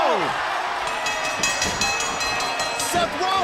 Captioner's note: bell ringing